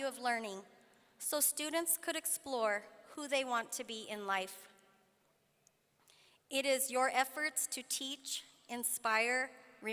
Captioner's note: none